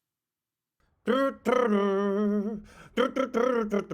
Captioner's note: humming